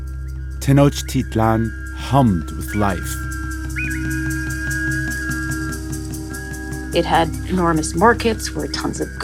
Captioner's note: soundbite of birds whistling